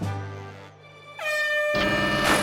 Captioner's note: air horn sounds